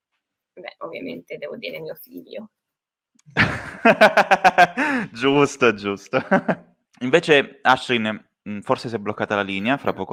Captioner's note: laughter